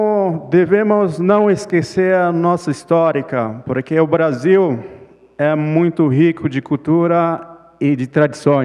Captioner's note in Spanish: Ponente habla en portugués